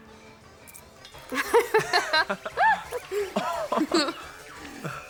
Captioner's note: both laughing